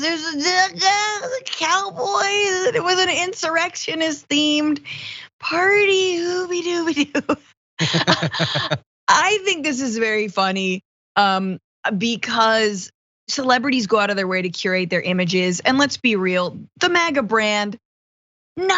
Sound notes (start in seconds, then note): 7.8 laugh